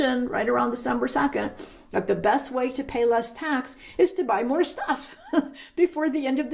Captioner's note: chuckles